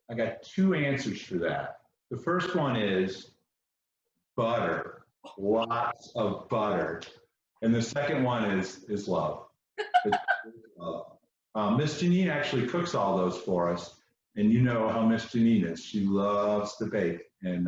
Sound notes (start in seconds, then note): 9.8 chuckles